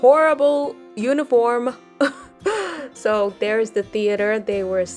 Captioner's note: giggles